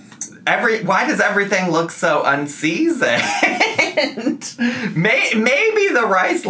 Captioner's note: laughs